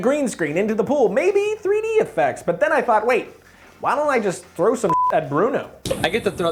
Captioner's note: beep